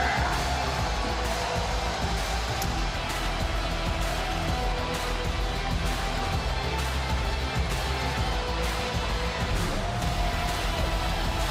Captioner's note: crowd cheers